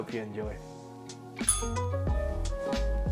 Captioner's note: bell rings; upbeat music